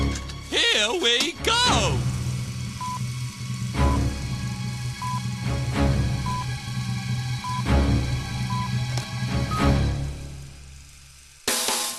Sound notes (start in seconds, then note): 2.2 film reel starts, beeping